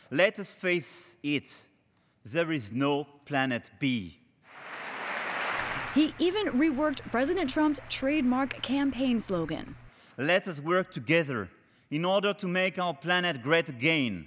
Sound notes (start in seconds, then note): 4.4 applause